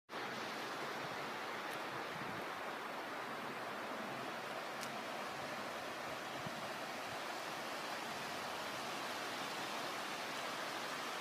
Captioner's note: ocean waves rolling